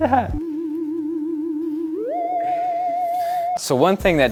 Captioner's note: spooky noise